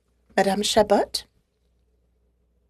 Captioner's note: speaking French